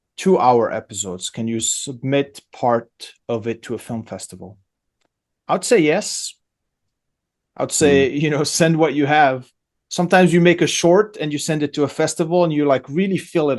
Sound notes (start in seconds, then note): 7.8 laughs